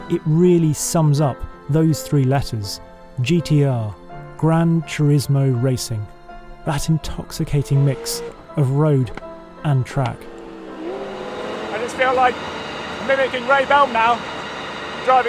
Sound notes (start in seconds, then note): 10.7 engine roaring